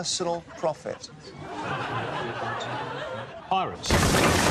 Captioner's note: chatter